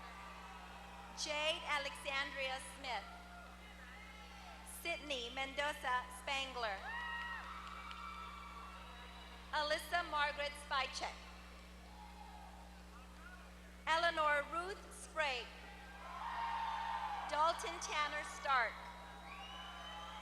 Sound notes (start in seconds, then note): 7.0 applause; 16.1 applause